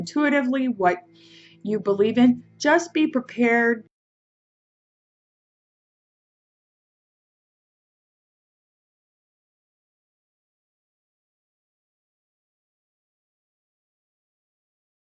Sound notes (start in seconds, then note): 3.9 sound goes out